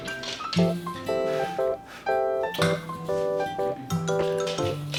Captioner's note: blowing